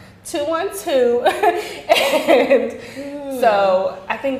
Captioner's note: laughing